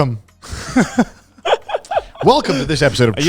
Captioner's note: laughs